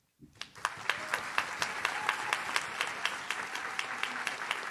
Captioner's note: audience cheers